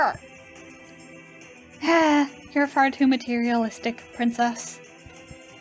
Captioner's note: sigh